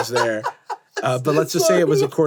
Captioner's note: laughing